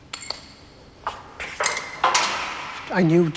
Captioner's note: clanging